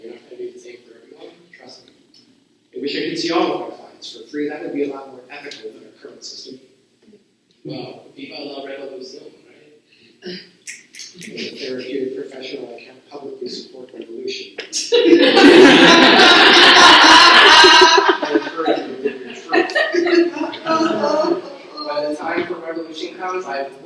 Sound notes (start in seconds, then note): 10.6 snaps in audience; 14.9 laughter